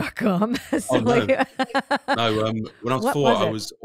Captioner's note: laughs